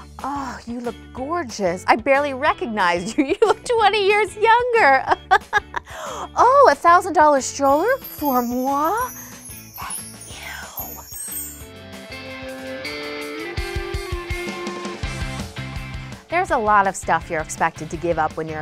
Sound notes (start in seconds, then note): 5.2 laughing; 5.8 gasps; 12.3 light upbeat music